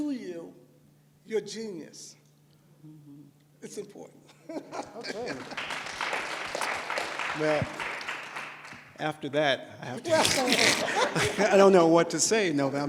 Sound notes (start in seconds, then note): 5.0 applause; 5.2 laughs; 9.7 laughter